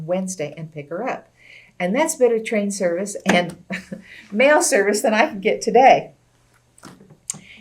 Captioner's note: laughs